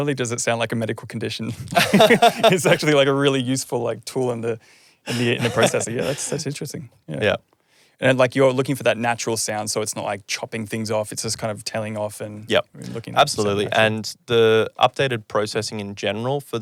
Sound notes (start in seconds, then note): 1.5 laughing